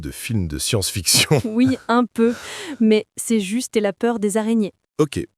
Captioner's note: laughs